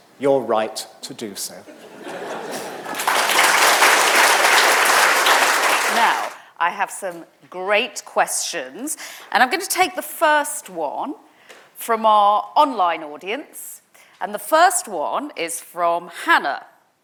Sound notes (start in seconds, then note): 1.7 audience laughing; 4.3 audience applauding